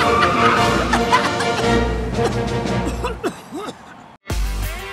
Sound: Cruz coughs; upbeat electric guitar music

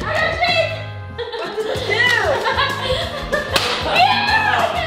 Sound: laughing

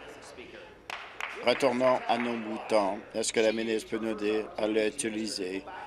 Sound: applause

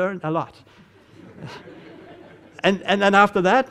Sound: audience laughing

